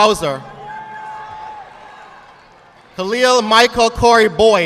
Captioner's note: audience clapping